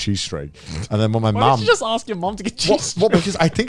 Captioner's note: snorts